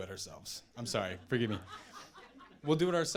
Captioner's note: audience laughing